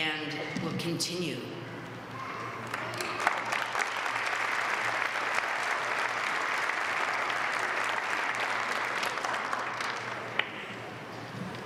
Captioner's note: applause